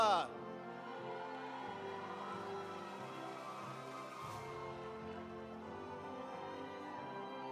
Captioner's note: audience cheering; audience applauding